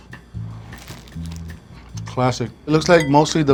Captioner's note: egg roll crunching